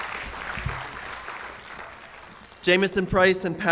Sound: cheers and applause

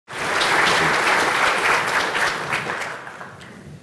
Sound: applause

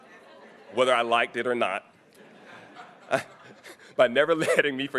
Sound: chuckles

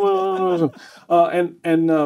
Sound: laughing

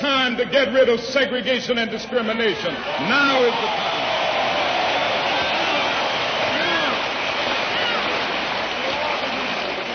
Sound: applause

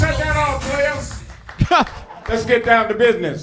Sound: announcer laughs

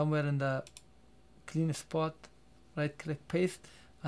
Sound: double click

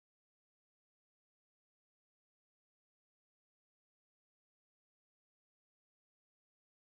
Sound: none

